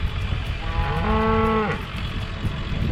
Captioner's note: mooing